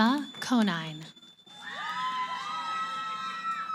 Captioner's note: cheering